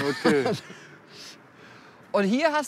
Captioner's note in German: Lachen